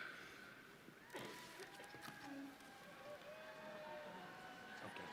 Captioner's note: audience cheering